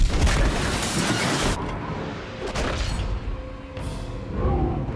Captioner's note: explosions blasting